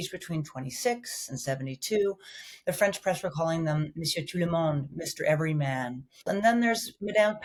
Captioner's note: speaking in foreign language